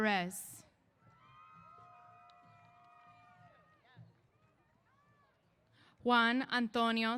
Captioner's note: cheers